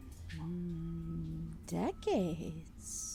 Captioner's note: none